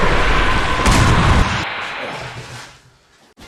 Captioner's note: clash SFX; explosion SFX